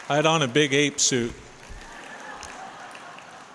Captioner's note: laughter